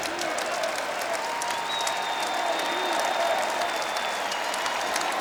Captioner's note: crowd cheering and applauding